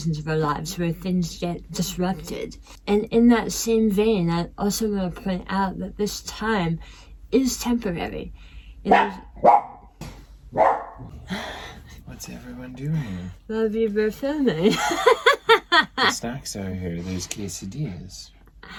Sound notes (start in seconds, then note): 8.9 dog barks